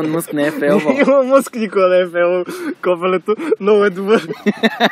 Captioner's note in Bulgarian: със смях